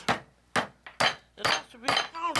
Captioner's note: hammering